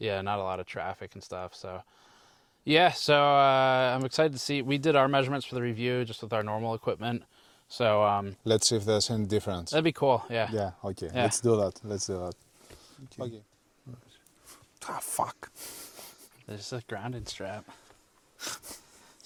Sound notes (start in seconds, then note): 14.8 I got hit by static